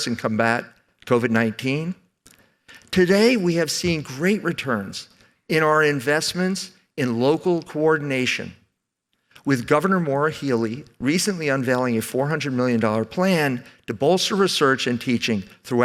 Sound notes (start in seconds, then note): none